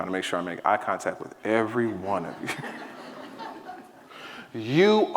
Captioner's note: audience laughing